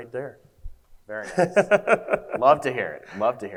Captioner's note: laughs